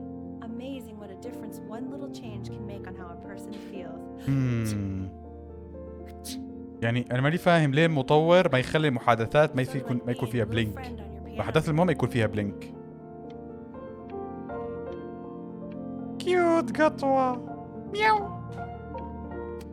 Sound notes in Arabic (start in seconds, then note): 4.4 عطس